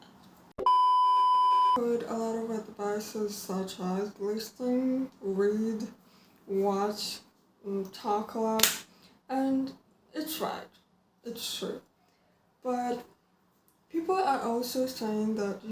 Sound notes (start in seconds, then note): 8.6 knee slap